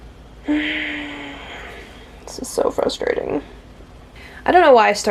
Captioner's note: sigh